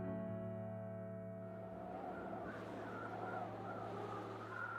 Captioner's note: wind howling distantly